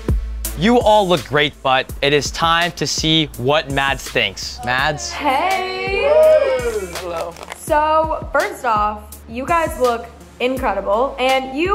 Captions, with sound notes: (upbeat hip hop music) - You all look great but it is time to see what Mads. Mads. - Hey! (housemates cheering) - Hello. - So, first off, you gus look i,